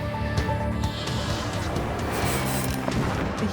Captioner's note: cars whooshing, sparks crackling, firework exploding